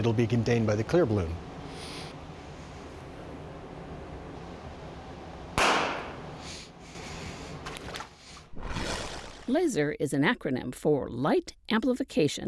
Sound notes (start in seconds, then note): 5.9 balloon pops water swishes